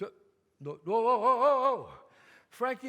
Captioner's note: none